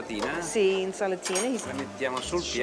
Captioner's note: speaking Italian